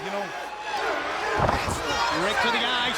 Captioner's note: crowd cheering